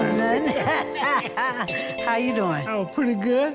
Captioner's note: both laugh